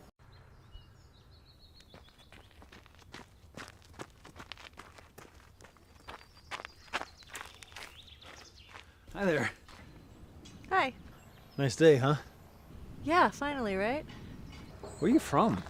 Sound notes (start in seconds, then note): none